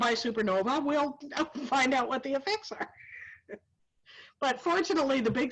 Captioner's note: laughs